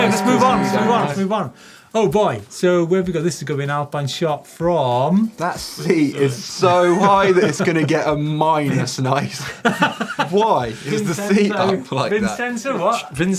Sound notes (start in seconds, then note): 8.6 laughter